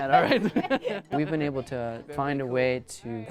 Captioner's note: and girl laughing